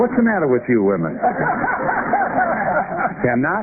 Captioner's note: laughter